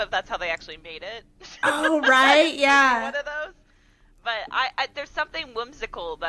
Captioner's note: laugher